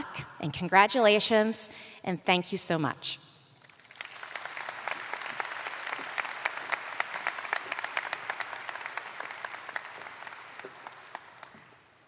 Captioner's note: applause